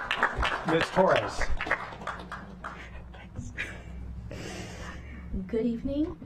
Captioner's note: applause